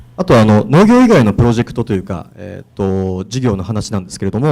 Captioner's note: speaking foreign language